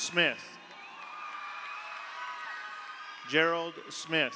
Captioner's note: audience cheers; audience applauds